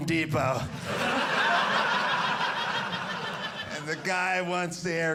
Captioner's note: audience laughing